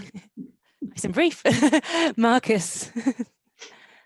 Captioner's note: laughs